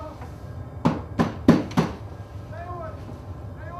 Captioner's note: banging on door